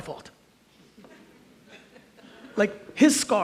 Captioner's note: audience chuckles